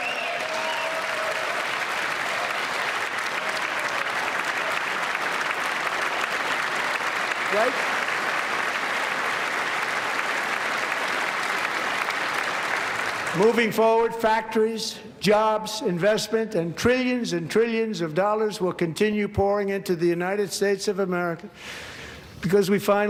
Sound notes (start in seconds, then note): 7.0 applause